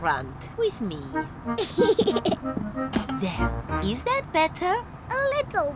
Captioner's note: giggles